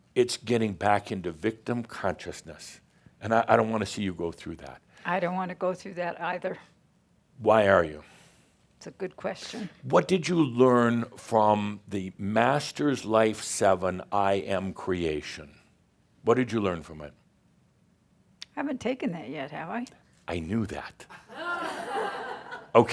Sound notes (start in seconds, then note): 20.4 some chuckles